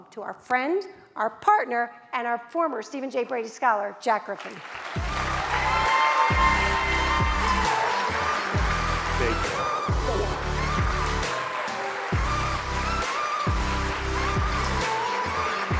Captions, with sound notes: to our friend, our partner, and our former Stephen J. Brady Scholar, Jack Griffin. (audience applauds) (upbeat music)